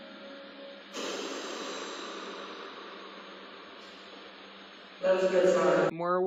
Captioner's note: blows raspberry